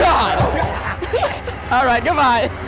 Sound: laughing

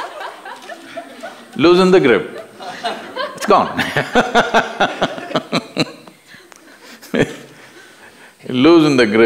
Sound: laughter; laughs

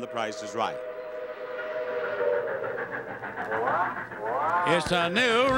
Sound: train whistle and engine whirring

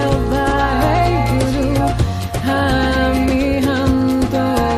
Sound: chanting in foreign language

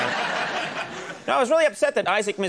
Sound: audience laughs

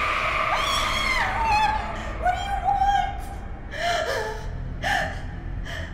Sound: screams

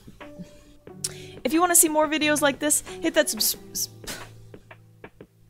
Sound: sighs

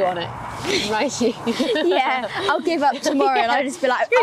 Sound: lauging

